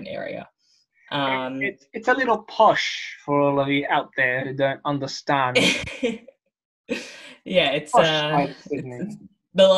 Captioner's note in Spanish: Risas